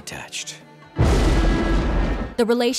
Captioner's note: thundering